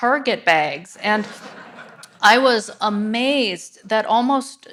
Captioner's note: audience laughs